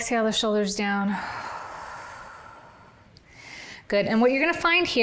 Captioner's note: exhales